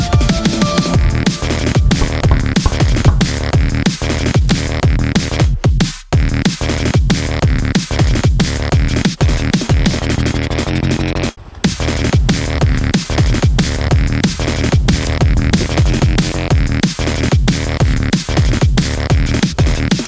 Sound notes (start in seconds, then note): 1.9 knocking; 4.5 moss crunching; 14.0 wood cracking